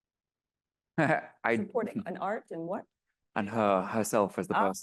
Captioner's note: laughs